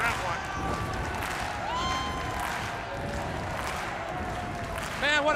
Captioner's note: crowd cheering